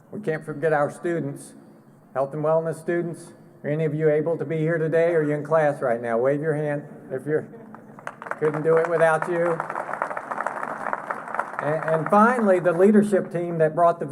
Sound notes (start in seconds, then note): 9.2 applause